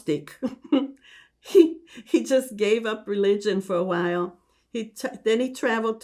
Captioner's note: laughing